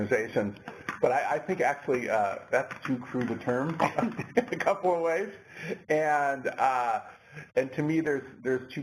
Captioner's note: laugh